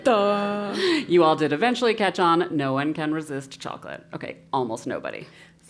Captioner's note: laugh